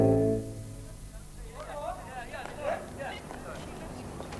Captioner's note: people chatter